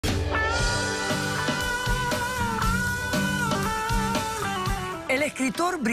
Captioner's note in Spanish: ovación